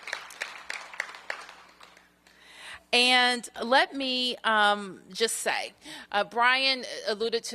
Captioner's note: applause